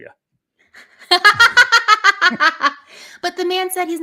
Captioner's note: laughing